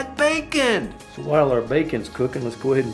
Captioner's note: voiceover